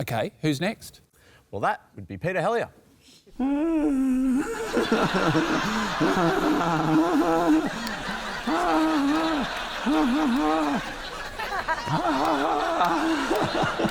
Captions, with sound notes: OK. Who's next? Well, that would be Peter Helliar. (GROANS, LAUGHS) (CONTINUES LAUGHING)